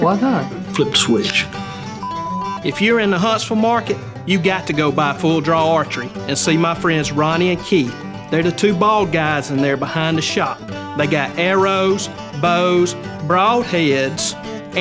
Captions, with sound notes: - Why not? - Flip the switch. (beeps) - If you're in the Huntsville market, you've got to go by Full Draw Archery and see my friends Ronnie and Keith. They're the two bald guys in there behind the shop. They got arrows, bows, broad heads,